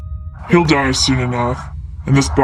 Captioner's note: in a strange voice